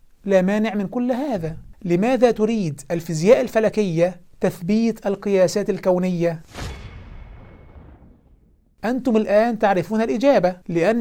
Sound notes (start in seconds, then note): 6.4 sound effect